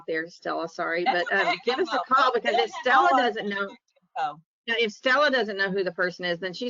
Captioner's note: chuckles